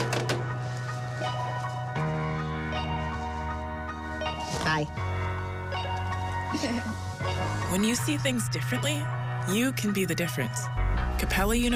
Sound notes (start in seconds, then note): 6.2 chuckles